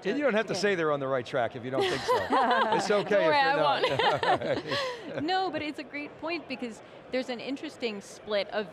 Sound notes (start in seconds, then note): 1.8 laughing